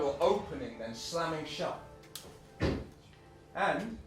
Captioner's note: car door slams